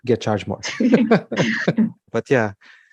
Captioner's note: laughing